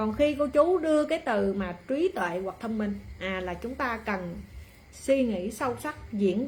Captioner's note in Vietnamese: khịt mũi